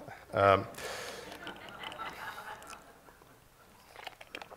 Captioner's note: laughter